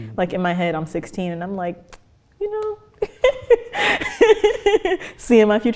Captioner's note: laughs